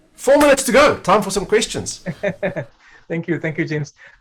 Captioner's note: chuckles softly